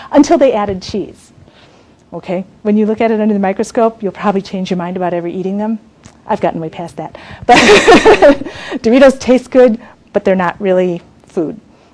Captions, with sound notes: until they added cheese. When you look at it under a microscope, you'll probably change your mind about ever eating 'em. I've gotten way past that. But (laughs) Doritos taste good, but they're not really food.